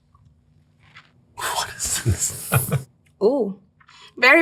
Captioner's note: chuckles